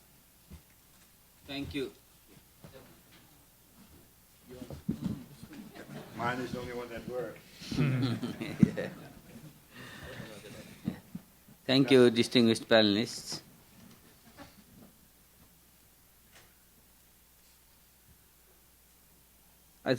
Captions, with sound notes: Thank you. (audience laughs) - Mine is the only one that works? - Yeah.(laughing) - Thank you, distinguished panelists.